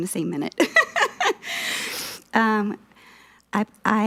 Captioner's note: laughing